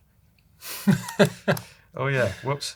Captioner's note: laughs